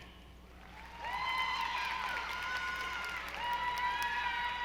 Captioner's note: audience applauding